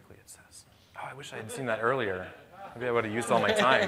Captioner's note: speaking too quickly